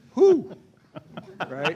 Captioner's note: laughter